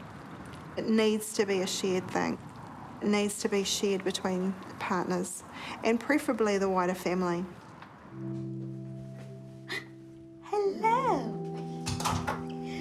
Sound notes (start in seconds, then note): 9.6 gasps